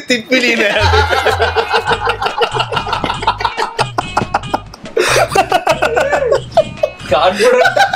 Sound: laughs

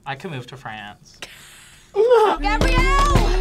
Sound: React laughs; laughs

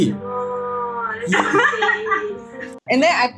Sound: laughs

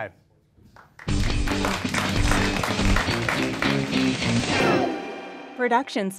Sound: applause and outro music

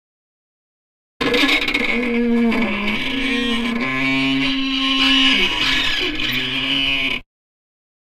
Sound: iron door squeaks

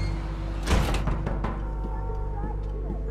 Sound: knocking

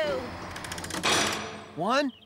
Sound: clang!

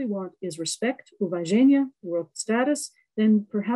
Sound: russian

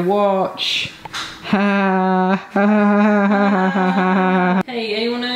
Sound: pretends to laugh

